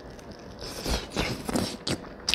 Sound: slurppmunchslrp

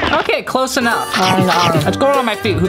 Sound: crunching

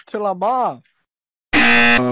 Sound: 𝐄𝐗𝐓𝐑𝐄𝐌𝐄𝐋𝐘 𝐋𝐎𝐔𝐃 𝐈𝐍𝐂𝐎𝐑𝐑𝐄𝐂𝐓 𝐁𝐔𝐙𝐙𝐄𝐑

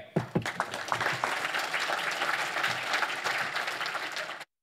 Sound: audience applauds

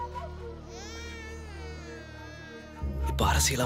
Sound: baby crying

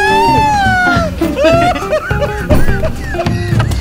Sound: laughing; knocking on the door

